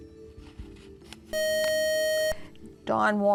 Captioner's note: buzzer